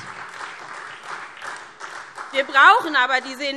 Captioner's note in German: Beifall SPD